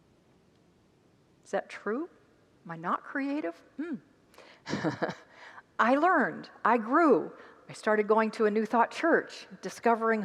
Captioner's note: laughs